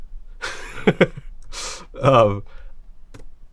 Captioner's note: laughs